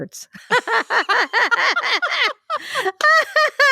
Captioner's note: both laugh